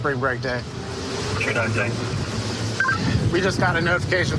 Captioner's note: radio communication